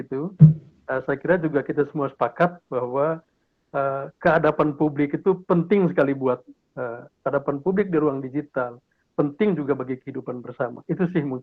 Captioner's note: speaking indonesian